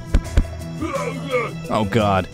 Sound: feet thudding; robot muttering

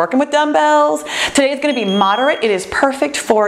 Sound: bell chimes

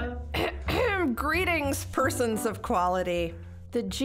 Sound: multiple people laughing; clearing her throat

